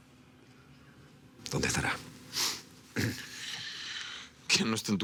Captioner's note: aspira y carraspea